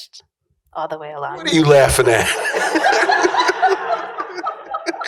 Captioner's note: laughter